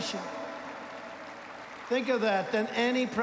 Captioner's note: applause